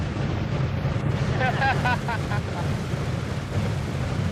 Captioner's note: man laughing